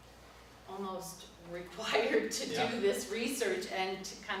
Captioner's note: laughs